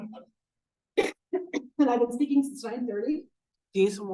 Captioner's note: coughs